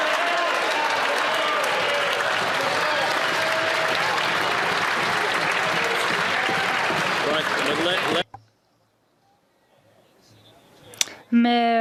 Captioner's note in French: voix de l'interprète